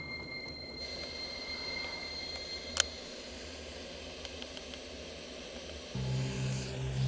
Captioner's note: static increases